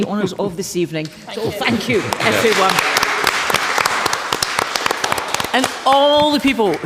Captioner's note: applause